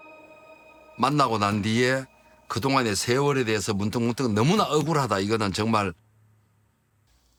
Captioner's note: speaking Korean